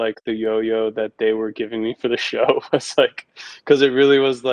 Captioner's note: laughs